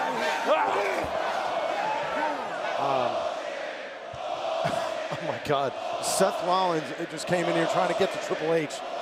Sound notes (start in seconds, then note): 4.9 crowd cheering; 5.8 crowd chatter